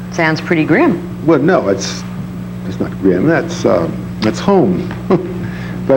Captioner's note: laughs